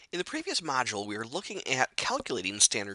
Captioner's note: voiceover